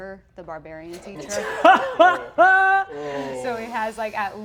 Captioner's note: Brennan laughs